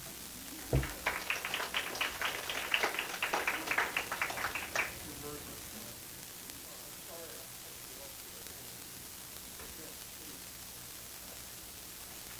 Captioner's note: applause